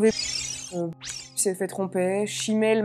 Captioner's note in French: bip